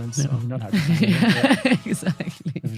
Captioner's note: laughing